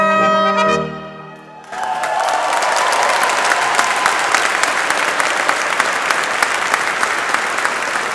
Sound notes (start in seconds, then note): 1.4 audience cheering; 1.6 audience applauding